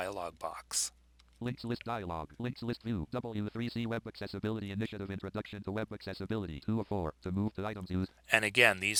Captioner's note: synthesized speech